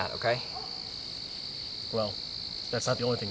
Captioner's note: crickets chirping